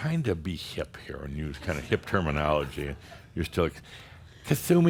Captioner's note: some chuckles